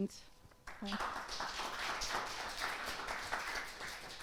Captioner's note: audience clapping